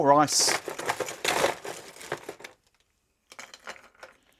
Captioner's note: ice clinking